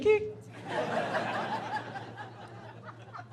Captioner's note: laughing